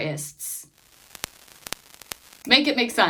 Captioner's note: static noises